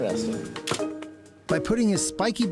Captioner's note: camera clicks